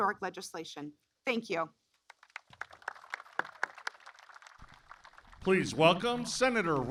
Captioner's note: applause